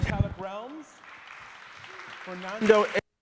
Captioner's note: audience applauding